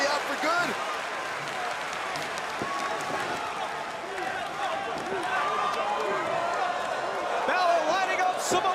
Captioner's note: crowd cheering